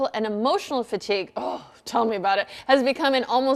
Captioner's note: groans